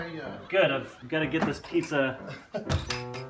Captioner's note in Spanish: Chico de la pizza ríe